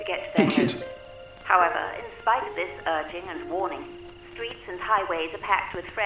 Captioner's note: radio Announcer